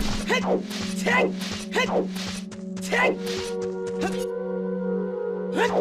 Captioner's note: ahem